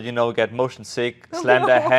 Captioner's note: laughs